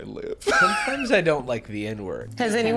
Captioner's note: laughing